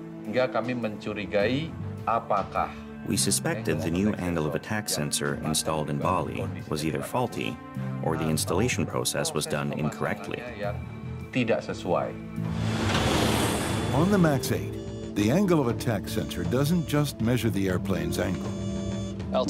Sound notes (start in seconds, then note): 1.3 speaking indonesian; 10.6 speaking indonesian; 12.7 jet engine